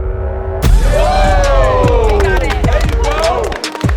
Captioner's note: cheering